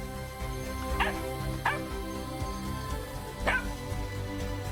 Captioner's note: puppy barks